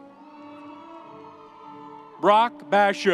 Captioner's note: audience cheering